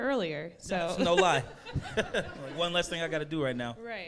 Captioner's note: laughs